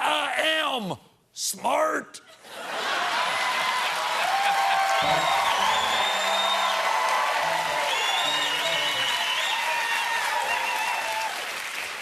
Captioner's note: cheers and applause